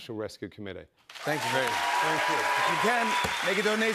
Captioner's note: cheers and applause